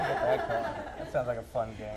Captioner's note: laughter